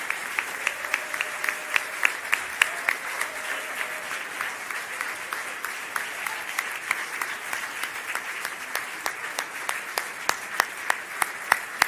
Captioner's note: applause